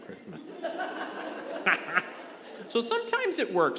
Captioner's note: congregation laughing